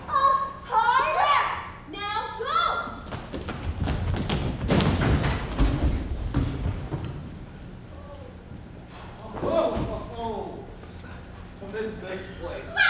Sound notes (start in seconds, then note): 8.2 men grunting